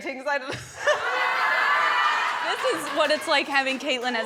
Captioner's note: guests laughing